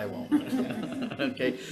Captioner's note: senators laughing